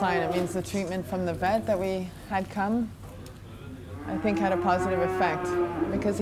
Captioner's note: none